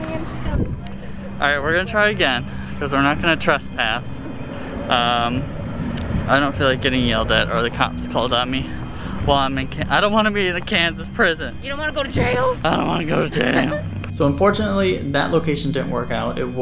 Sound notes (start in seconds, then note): 13.0 hoarsely